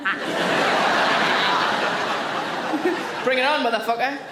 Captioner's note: audience laughing